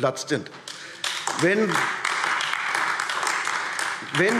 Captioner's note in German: Beifall AfD